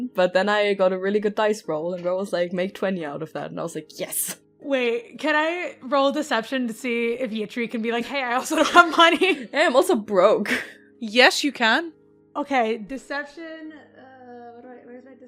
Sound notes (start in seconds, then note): 9.1 laughs